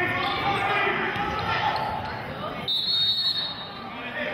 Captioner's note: yelling; whistling